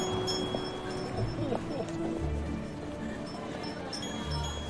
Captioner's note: chuckles